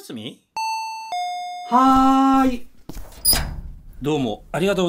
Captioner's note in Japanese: ドアチャイムの音